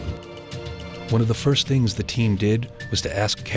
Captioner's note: voiceover